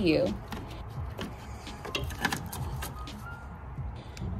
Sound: clip thudding

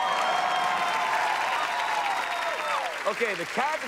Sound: cheers and applause

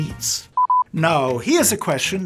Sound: beeping

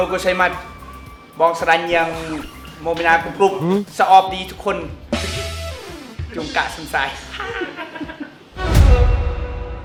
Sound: Cambodian language

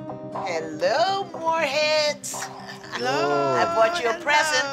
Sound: laughs

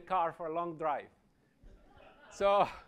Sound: laughter

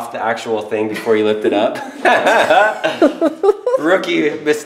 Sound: laughing

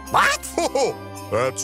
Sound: santa laughs

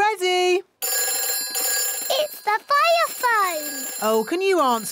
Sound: phone rings

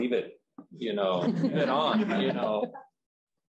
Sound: chuckling

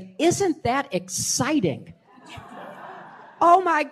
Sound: laughter

